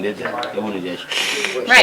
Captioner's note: sucking sound